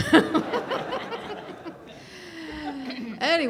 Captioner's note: laughter